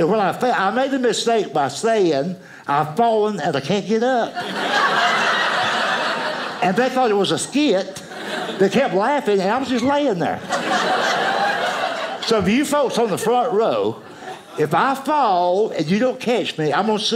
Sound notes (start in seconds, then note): 4.8 audience laughing; 10.7 audience laughing